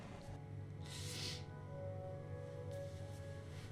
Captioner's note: sniff